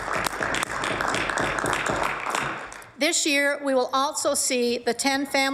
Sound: applause

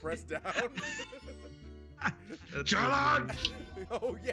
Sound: laugh

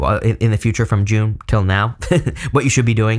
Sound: laughs

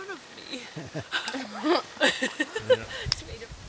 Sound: laughter

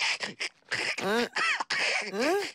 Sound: wheezy, drooly sounds

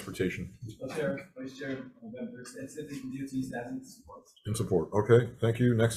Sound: speaks faintly

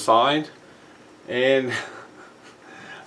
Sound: laughs

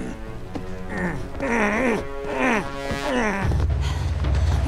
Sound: grunting

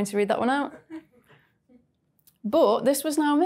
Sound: woman chuckles

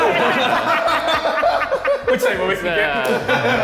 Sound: all laughing

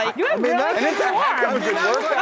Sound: audience applauds

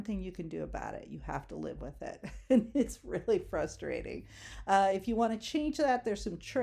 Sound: chuckles

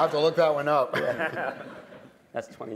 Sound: laughter

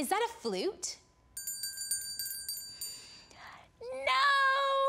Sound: bell ringing

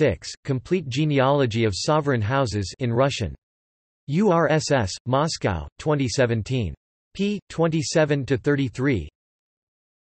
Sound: in Russian

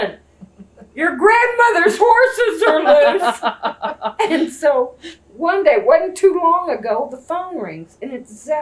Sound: laughter

